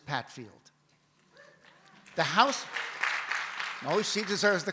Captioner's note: audience cheers